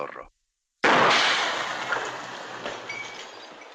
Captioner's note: gunshot - glass shattering